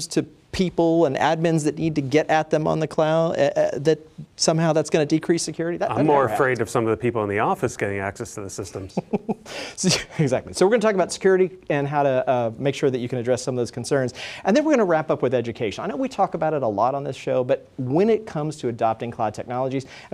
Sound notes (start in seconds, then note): 8.7 laughs